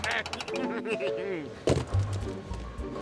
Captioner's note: chuckling